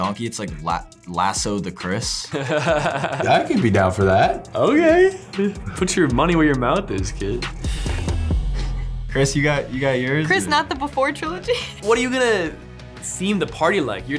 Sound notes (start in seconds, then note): 2.3 laughs